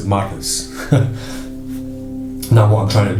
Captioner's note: laughs